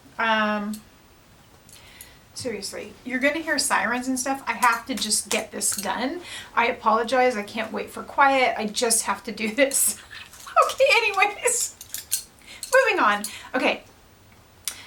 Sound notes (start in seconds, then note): 10.0 laughing